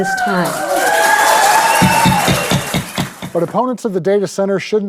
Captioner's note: people cheering